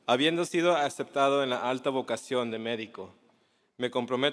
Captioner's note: japanese; korean; urdu; punjabi